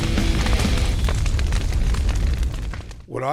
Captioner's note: flames crackling